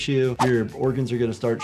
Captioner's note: screen swooshing